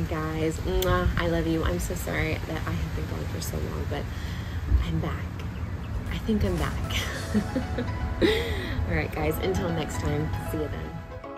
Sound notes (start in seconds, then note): 7.0 chuckles softly; 11.2 gentle rhythmic music